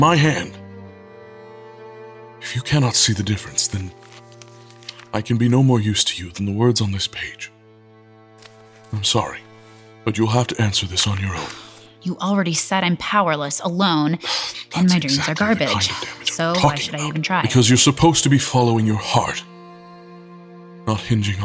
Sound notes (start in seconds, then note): 12.5 frustrated; 17.6 through teeth